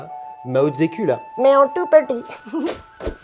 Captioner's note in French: voix caricaturale de chinois